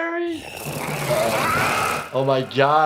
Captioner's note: Toothfairy gnarls